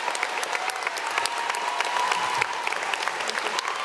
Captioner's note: audience cheering